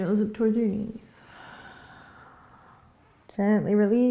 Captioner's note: exhaling